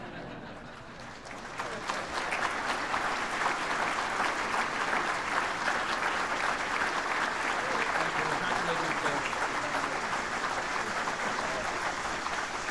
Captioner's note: applause